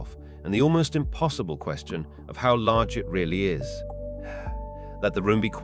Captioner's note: sigh